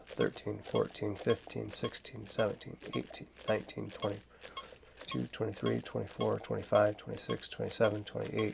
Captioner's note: beeping